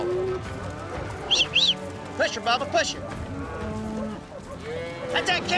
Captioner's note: booger whistling